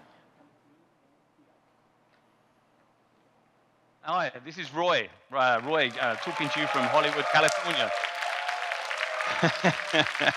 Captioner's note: audience cheering